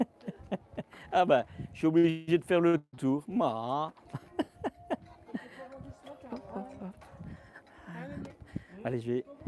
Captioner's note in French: rires